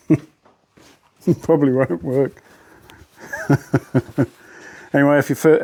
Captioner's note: laughing to himself